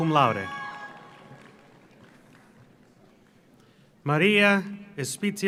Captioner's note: audience cheers; audience applauds